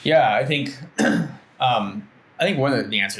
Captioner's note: clears throat